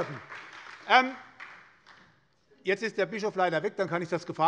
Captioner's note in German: Beifall bei der SPD